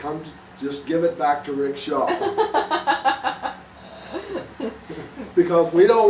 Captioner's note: chuckles